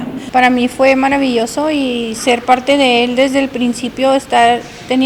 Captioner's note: speaking foreign language